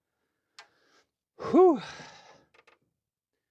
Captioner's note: exhaling